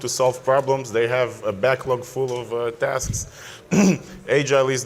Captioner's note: clears throat